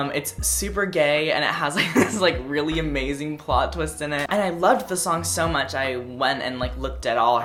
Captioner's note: laugh